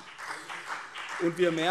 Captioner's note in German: Beifall CDU und BÜNDNIS 90/DIE GRÜNEN